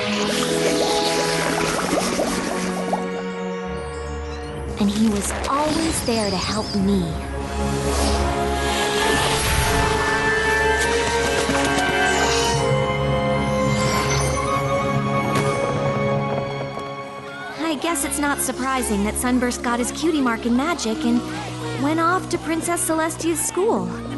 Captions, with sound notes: [bubbles] And he was always there to help me. [whoosh] I guess it's not surprising that Sunburst got his cutie mark in magic and went off to Princess Celestia's school.